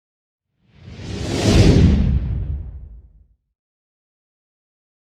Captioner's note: air whooshing